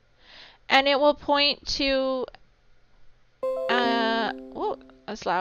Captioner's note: computer chiming